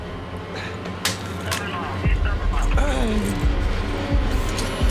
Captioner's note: police radio chattering